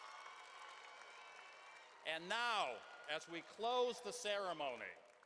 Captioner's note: cheering and applause